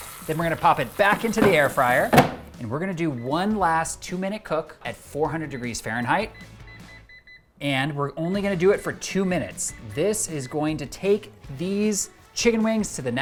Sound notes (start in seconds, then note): 6.7 fryer buttons beeping